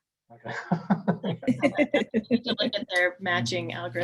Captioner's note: laughing